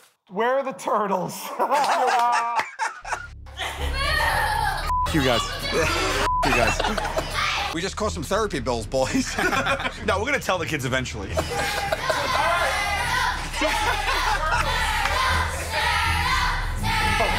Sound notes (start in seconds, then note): 1.5 laughter; 3.8 child crying; 13.5 children chanting "Turtles!"